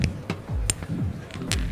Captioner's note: water splashing